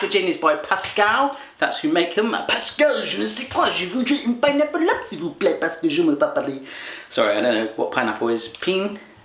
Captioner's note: speaks random French